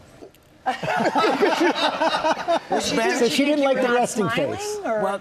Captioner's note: laughter